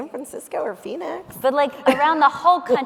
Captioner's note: laughing